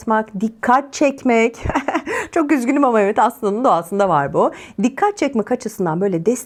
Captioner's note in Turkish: kahkaha